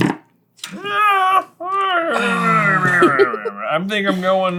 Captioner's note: noises of indecision